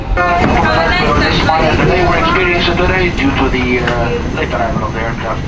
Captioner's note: captain speaking in intercom